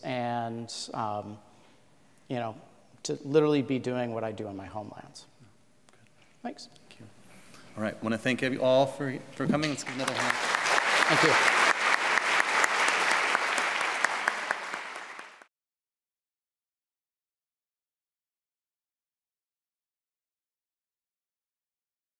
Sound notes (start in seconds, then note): 12.2 applause